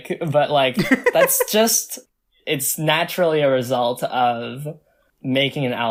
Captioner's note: laughs